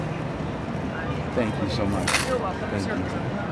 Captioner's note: coins clank